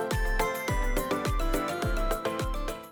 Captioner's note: ding Ding